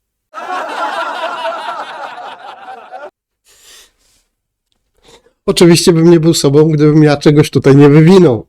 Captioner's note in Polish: śmiech